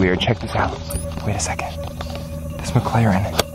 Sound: spy gear beeps; engine idling

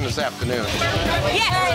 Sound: loud chatter

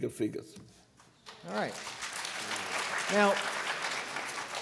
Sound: applause

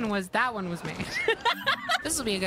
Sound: laughter

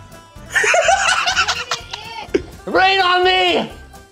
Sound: laughing

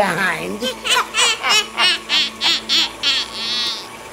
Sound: evil laugh

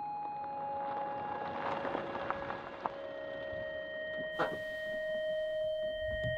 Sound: car driving and stopping

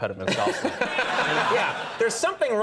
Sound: audience laughs

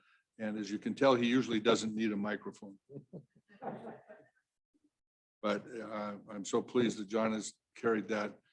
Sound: laugter

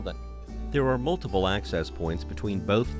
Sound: voiceover

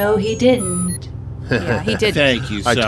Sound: laughs

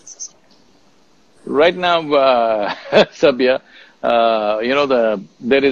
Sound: laughs

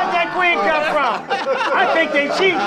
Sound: laughing

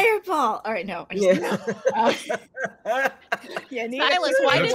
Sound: group laughs

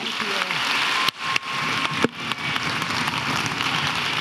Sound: audience applauding

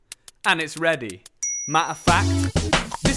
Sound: ping

